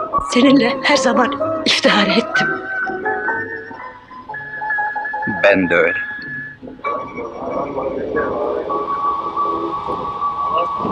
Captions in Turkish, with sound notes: Seninle her zaman iftihar ettim. Ben de öyle! [Tren garı ortam gürültüsü]